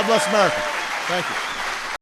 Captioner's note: applause